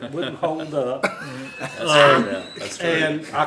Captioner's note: laughter